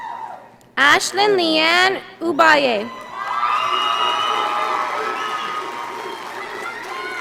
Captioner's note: audience applauding